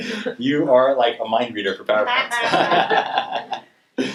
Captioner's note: laughs